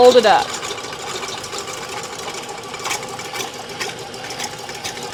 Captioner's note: mixer whirring